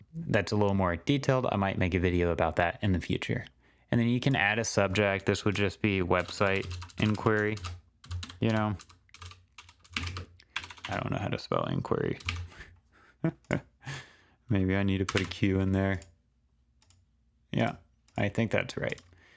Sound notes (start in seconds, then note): 12.9 chuckles